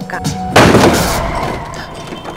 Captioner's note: Crashing sound